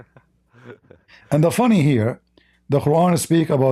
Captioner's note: Ketawa